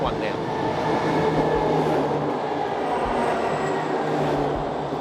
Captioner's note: train rumbling